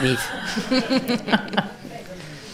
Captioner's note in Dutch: gelach in het café